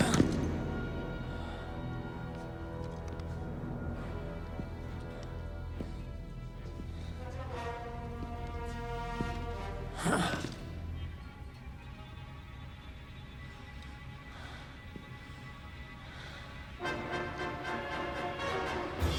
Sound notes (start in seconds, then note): 0.2 Castellano exhales sharply; 4.6 suspenseful music; 10.6 Castellano exhales sharply